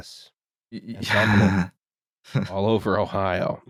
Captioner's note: disgusted laughter